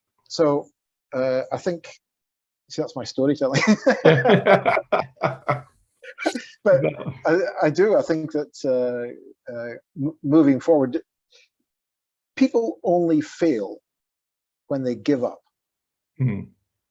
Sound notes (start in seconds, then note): 3.6 laughing